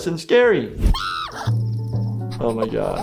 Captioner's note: Flaky screams